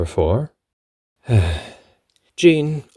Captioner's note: sighs